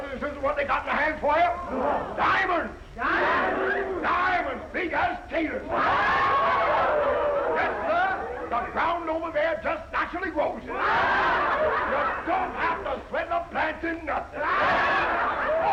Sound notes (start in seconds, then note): 5.7 all cheering; 10.1 all chattering